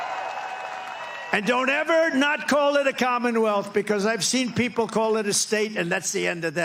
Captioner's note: applause